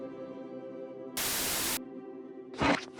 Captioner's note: tv static